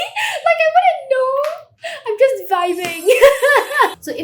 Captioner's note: laughs